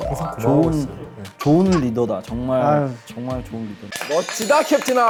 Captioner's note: heh